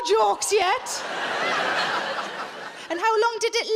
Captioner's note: audience laughs